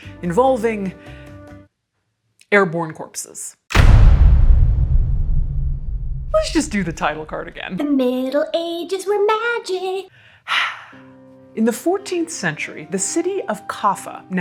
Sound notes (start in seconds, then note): 10.1 sighs